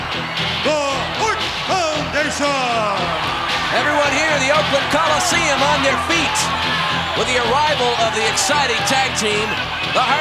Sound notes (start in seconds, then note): 3.0 audience cheering